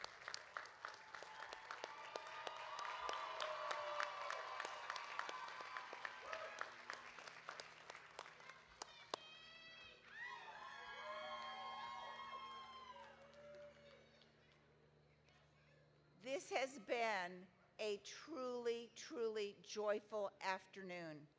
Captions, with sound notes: (audience applauding) (audience cheering) This has been a truly, truly joyful afternoon